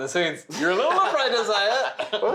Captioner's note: laughs